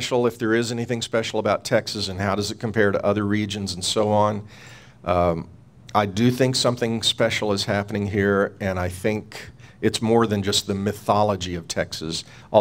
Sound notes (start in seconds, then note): none